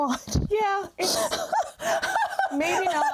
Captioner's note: laughing